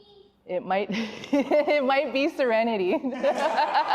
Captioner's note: laughing; laughs